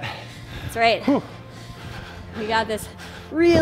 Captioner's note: breathes heavily